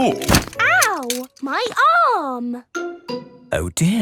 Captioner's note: thumps